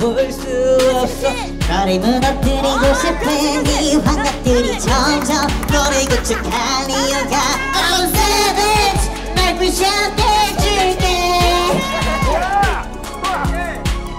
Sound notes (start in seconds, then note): 1.5 is back with his helium voice; 5.6 laughing♥